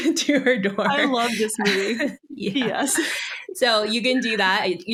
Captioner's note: both laugh